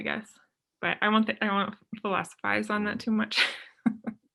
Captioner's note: chuckles